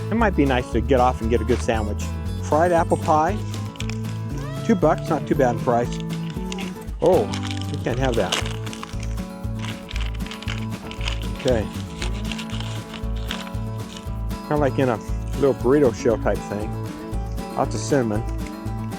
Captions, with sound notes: It might be nice to get off and get a good sandwich. Fried apple pie? Two bucks not too bad in price. oh you can't have that. [Paper ripping and crumpling loudly] Okay. [More paper crinkling and sliding] Kinda like in a little burrito shell type thing. Lots of cinnamon.